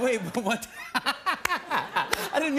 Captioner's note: laughter